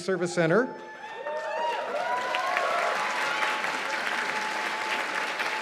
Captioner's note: cheers and applause